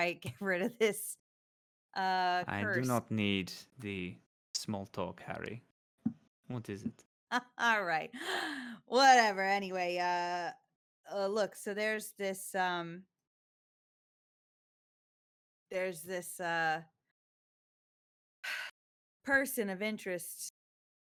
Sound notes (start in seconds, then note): 7.5 laughs